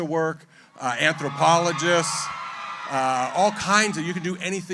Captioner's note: cheering